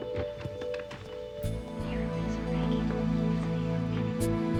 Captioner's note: boys whisper